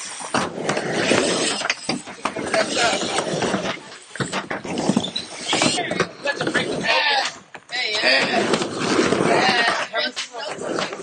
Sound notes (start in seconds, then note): 1.2 sharp board snap; 1.2 wood thuds